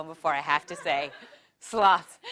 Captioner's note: laugh